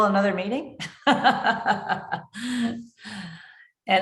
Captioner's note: chuckling